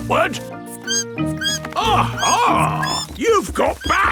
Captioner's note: bat squeaking